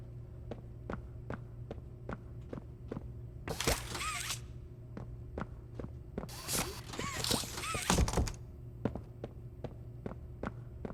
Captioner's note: footsteps